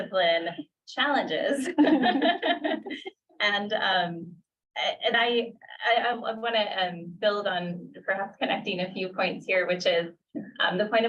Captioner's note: laughter